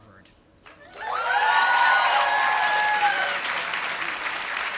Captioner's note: applause